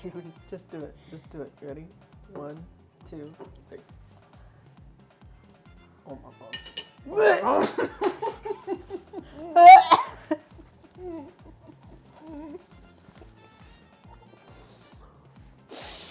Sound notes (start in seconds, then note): 7.0 gags; 9.6 laughs